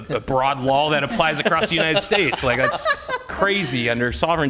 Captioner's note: laughing